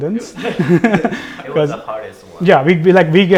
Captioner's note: laugh